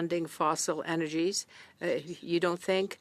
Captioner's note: speaking in French